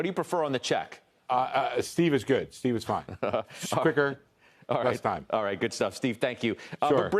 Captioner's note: laughter